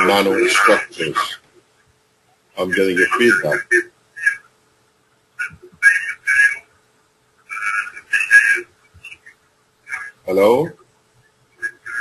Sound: intense noise in conversation

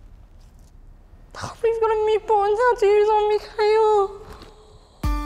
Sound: sighs

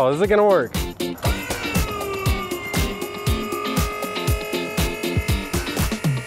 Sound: hydraulics being operated

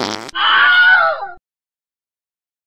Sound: fart Noise; Wilhelm scream

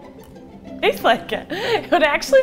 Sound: laughing

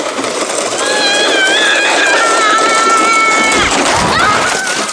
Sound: yelling

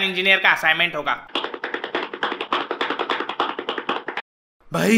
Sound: walking Sound

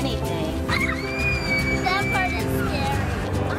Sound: screaming

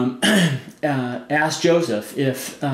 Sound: clears throat

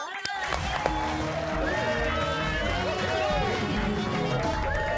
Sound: cheers and applause

